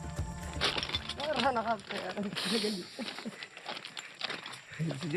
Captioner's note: dramatic music; speaking in foreign